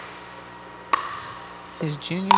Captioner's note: ball bouncing